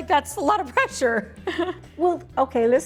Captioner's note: chuckles